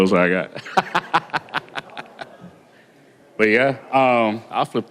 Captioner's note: laughter